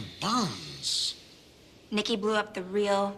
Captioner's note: groaning